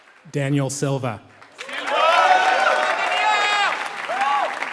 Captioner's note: applause